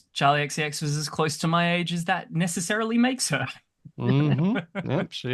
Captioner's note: laughs